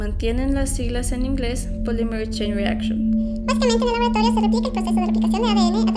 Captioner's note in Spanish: Sonido de zumbido empieza, voz sube una octava y se acelera